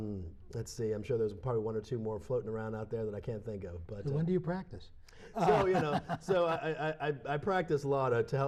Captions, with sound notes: or two more floating around out there that I can't think of, but. >> When do you practice? >> [Laughter] So, you know -- so, I -- I practice law to help maintain all my hobbies.